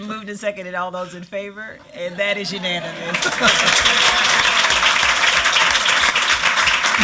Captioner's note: laughter